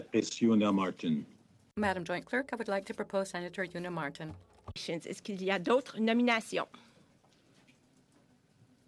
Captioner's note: speaking French